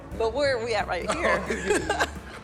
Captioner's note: laughing